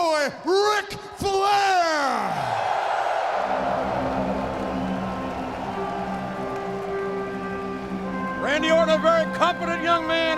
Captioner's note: applause